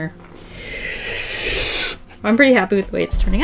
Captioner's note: deep inhale